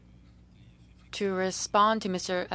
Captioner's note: speaking french